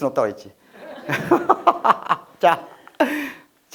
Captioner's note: haha